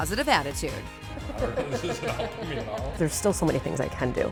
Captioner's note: laughs